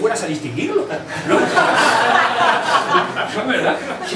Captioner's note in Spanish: risas